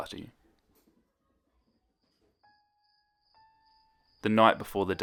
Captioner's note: crickets